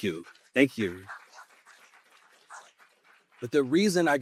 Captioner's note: applause